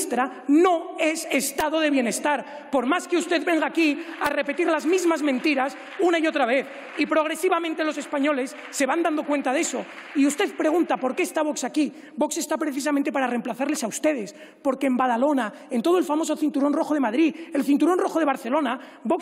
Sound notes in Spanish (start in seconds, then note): 9.9 Aplausos